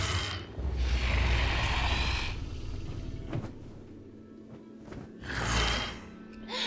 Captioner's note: dragon growls; feathers flaps